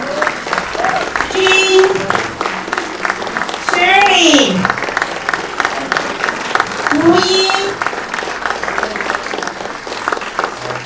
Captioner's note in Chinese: 掌声